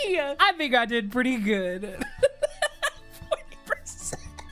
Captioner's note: laughs